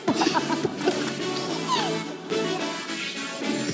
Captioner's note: they finally end up laughing